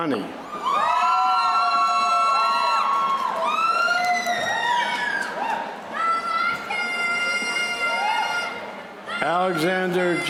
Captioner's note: applause